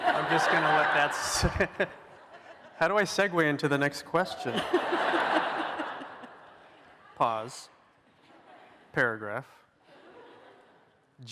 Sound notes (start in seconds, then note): 4.4 laughter